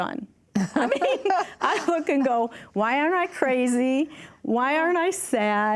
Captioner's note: chuckles